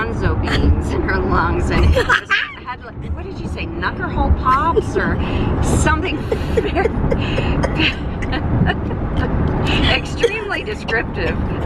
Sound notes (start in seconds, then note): 1.8 laughter; 6.2 coughing and laughter